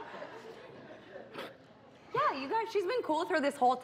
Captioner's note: laughter